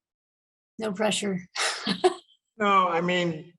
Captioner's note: laughs